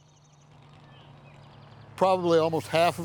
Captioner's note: birds chirping